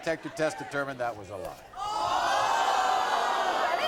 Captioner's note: audience gasping